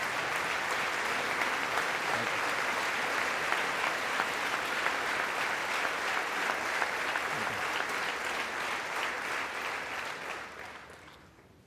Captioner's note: applause